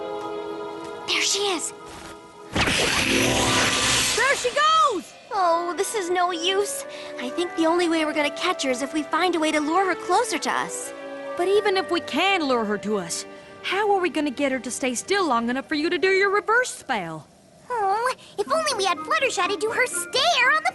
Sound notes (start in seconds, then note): 2.5 whoosh